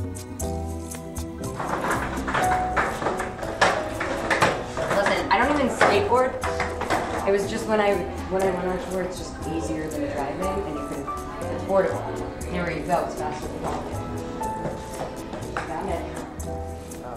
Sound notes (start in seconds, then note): 1.5 sound of skateboard on floor